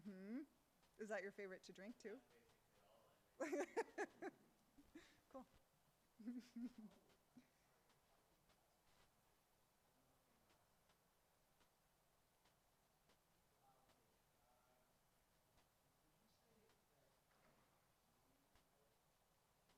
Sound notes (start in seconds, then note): 3.1 speaks faintly; 3.4 laughs